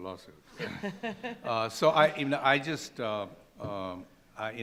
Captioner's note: laughing